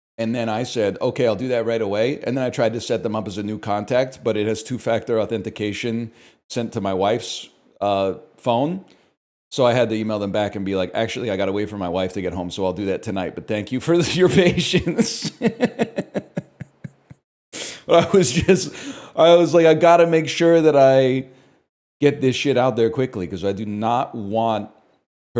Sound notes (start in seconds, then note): 17.1 laughs